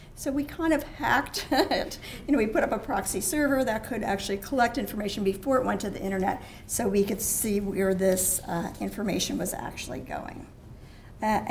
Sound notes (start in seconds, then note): 2.1 laugh